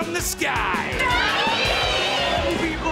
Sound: cheering

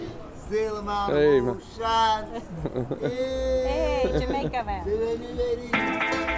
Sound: jamaican talking; jamaican talking: "hey shady lady"

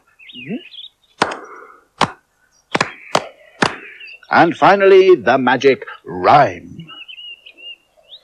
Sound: claps

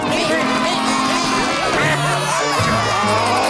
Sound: meeping; cheering

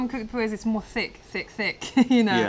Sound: laughter

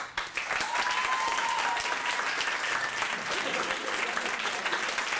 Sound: cheering and applause

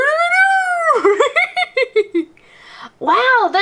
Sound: laughs

